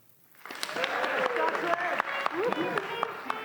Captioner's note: applause